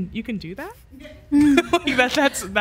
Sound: laughs

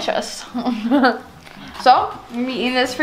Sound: chuckles

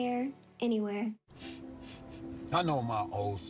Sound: sniffing

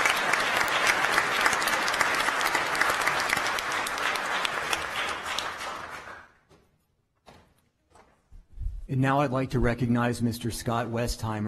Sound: applause

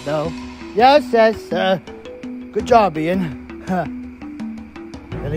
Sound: laughs; laughs

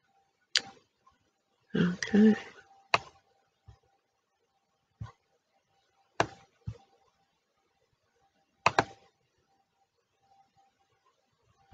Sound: click

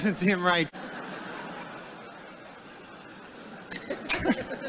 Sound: laughter

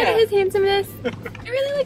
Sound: laughs

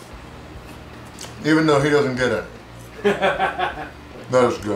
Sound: laughing

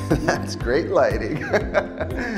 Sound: laughter

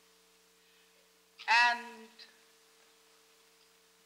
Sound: none

